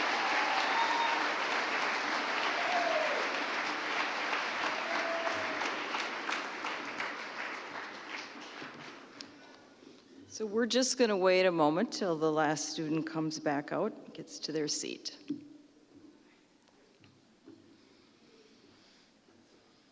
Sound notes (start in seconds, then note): 6.0 applause